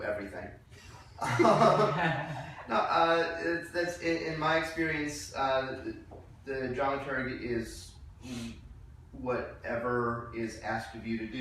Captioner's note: laughing